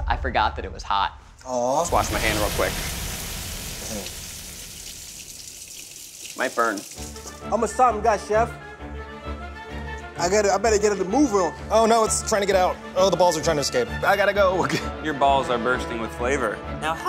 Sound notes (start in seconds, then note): 1.8 water splashing; 8.8 light adventure music